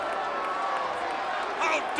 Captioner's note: crowd cheering